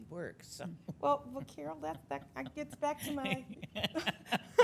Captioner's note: laughing